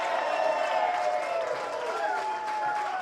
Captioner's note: applause